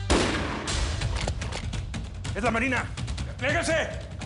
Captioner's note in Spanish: Disparo